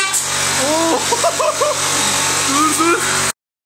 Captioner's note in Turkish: gülüyor